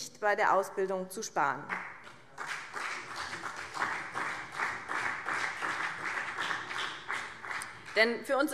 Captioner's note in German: Vereinzelter Beifall BÜNDNIS 90/DIE GRÜNEN und CDU